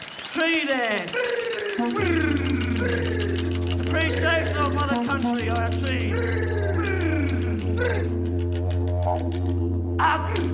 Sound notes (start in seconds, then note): 0.9 speaks indigenous language; 1.4 cheering and applause